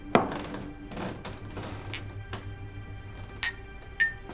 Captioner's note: glasses clanking